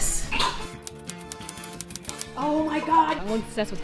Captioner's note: keyboard clicking